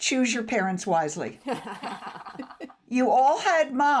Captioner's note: everyone laughs